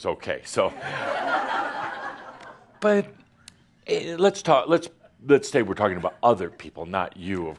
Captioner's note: laughter